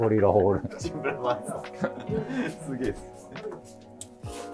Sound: laughing

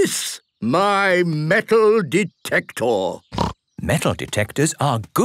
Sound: snorting

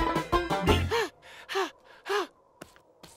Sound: playing banjo; breathing

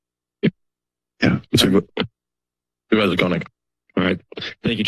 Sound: microphone thuds

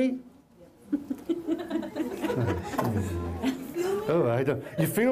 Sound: laughter

